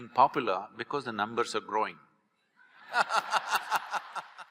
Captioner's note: laughter/Applause